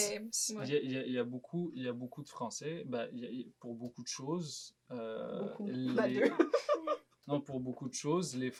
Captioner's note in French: rires